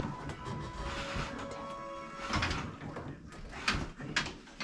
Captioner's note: wood clanking